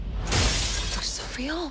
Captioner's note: glass shattering